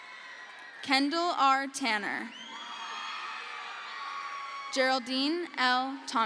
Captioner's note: crowd cheers